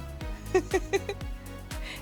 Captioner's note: laughs